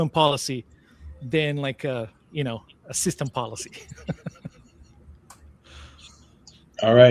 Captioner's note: laughs